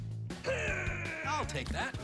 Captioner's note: grunting noise